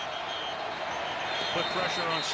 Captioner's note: whistle